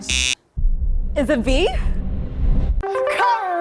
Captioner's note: buzzer